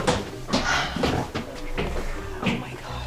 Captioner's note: gasps